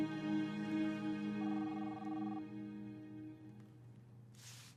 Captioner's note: line trilling